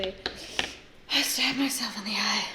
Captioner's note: inhales sharply